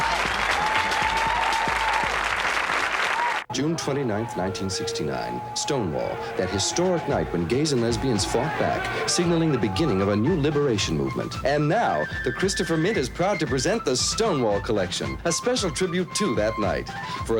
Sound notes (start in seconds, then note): 3.2 sounds of rioters, sirens; 11.3 patriotic fife and drum music